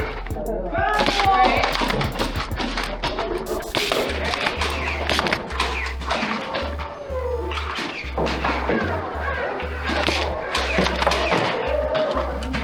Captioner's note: motors revving and rapid fire dart thunks; motors revving and rapid fire dart thunks with footsteps and indistinct shouting